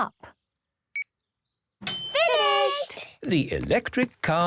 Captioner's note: dings